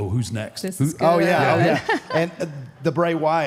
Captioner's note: laughs